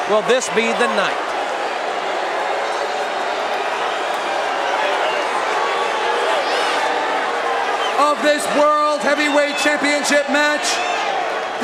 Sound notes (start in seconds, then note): 1.6 crowd cheering